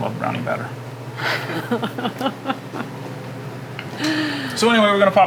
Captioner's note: laughing